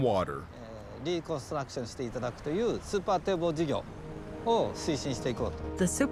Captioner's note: speaking Japanese